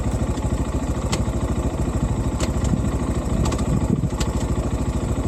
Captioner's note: gear clicking